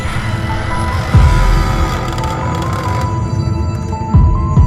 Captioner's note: chainsaw roars